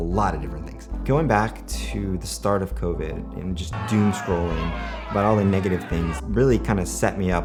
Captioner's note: angry crowd noise